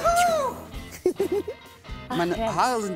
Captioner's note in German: Kichern